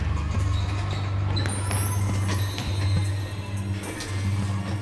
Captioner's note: dramatic, quietly tense electronic music; shoes squeaking on floor